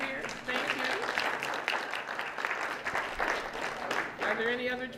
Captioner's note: applause